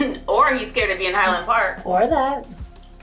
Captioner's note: chuckles